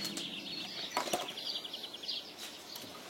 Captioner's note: birds chirping